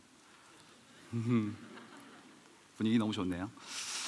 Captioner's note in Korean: 웃음